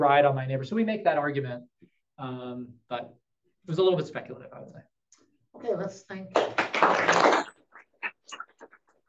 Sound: applause

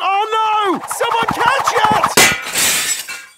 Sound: shatters

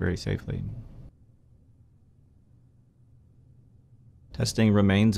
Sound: silence

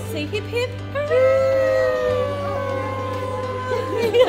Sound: everyone saying hooray; everyone laughing

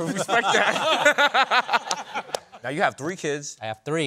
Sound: laughter

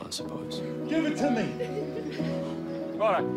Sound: soft laughter

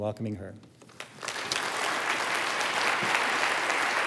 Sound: applause

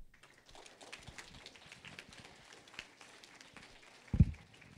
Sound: applause

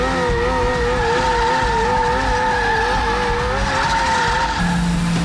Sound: tires screeching

